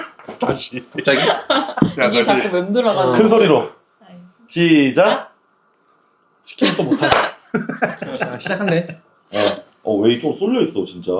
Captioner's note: laughs